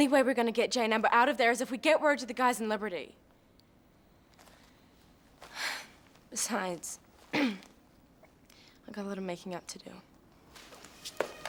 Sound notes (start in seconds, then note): 5.5 sighs; 7.3 throat clearing